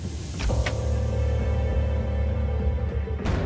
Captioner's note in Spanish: Golpes